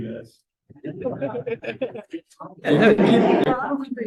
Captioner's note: laughing